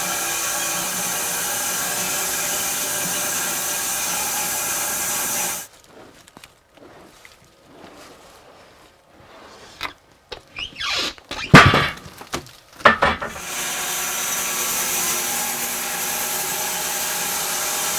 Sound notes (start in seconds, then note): 10.3 wood squeaking; 12.8 sawing machine whirring continues